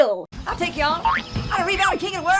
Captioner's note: spring boings